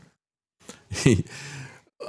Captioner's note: laughs